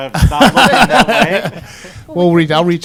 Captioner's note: laughter